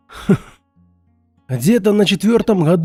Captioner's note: laughs